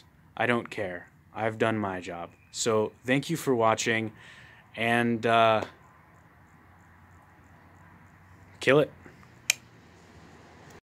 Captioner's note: click